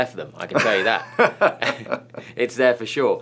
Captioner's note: Byron laughs